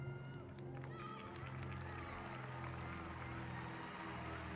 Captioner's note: applauding